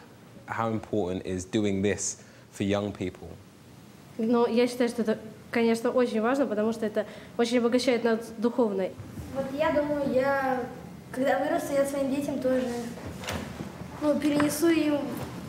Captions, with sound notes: How important is doing this for young people? (speaking in foreign language)